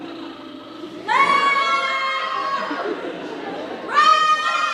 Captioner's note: performers scream